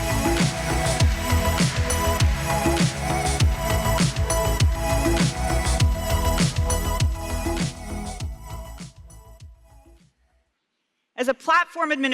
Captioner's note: applause